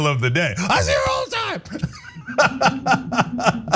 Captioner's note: laugh